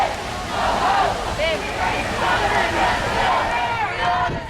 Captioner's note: crowd